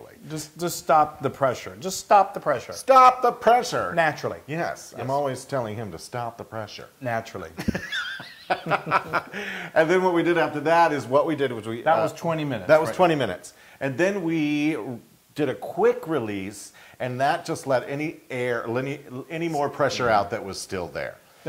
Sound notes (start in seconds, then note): 7.6 laugh